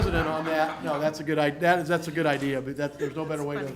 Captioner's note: laughter